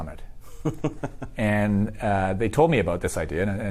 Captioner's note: laughs